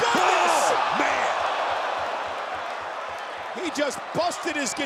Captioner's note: crowd groaning